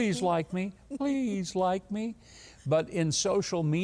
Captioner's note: giggles